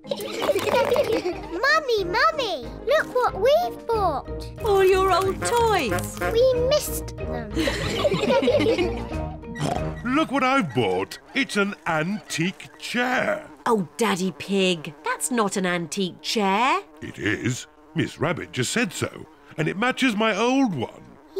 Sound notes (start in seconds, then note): 0.1 all laugh; 7.6 all laugh; 9.5 oinks; 12.8 flies buzzing